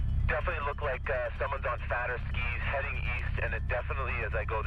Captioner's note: voiceover